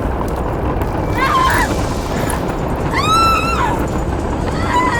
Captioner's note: Alison screaming